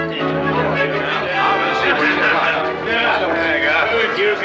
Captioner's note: all clamoring